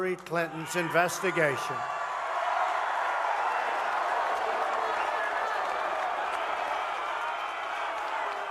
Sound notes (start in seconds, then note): 2.0 cheering and applause